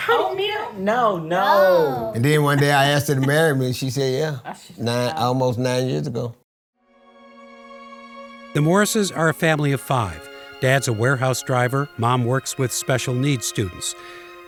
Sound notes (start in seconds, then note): 2.4 laughs; 7.2 gentle music